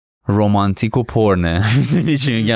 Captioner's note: laughs